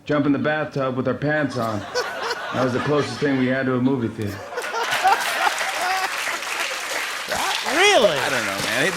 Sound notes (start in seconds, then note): 4.2 laughter and applause